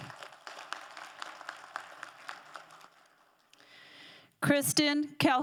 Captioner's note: crowd applauding